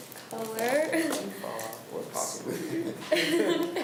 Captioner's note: laughs